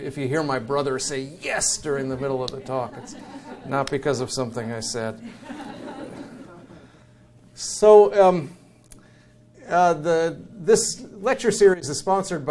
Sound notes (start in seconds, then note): 5.0 audience chuckles